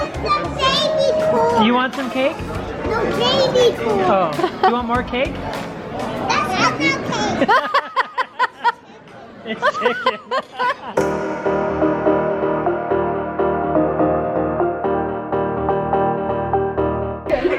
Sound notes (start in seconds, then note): 7.6 laughing; 11.0 upbeat music